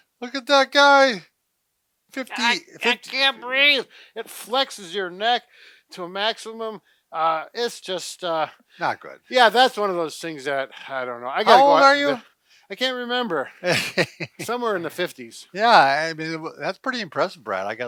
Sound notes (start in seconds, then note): 13.6 laughing